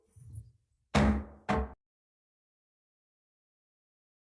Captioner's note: gavel thud